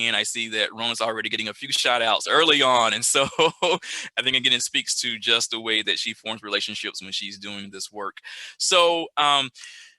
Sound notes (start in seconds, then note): 3.0 laughs